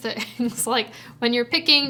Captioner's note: chuckles